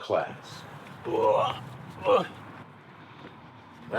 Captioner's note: grunting